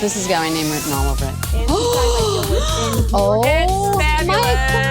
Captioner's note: electronic beat; gasps